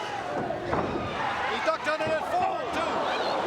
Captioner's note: crowd chatter